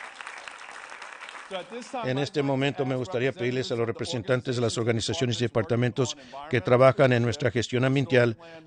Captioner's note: applause